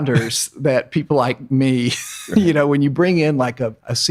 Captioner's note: laughs